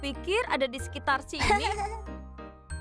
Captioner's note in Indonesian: Pinkfong tertawa